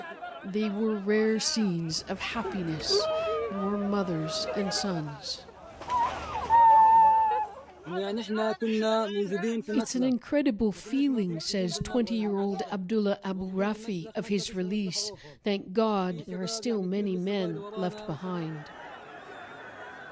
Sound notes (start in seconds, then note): 8.3 crying; 10.0 speaking alternate language